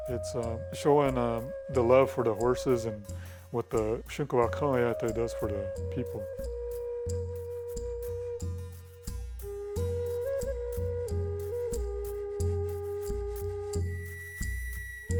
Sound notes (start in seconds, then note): 4.4 speaking in foreign language; 10.3 native American flute music